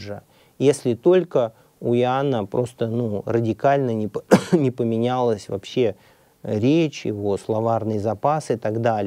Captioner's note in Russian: кашляет